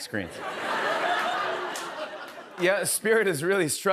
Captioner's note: laughter